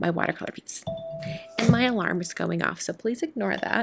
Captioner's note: alarm dings